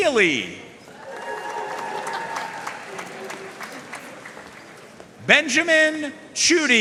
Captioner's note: audience cheering and applauding